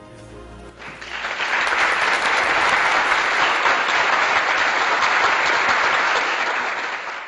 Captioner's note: applause